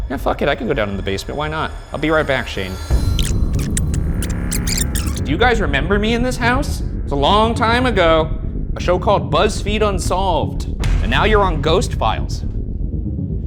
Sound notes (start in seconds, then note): 2.8 videotape squealing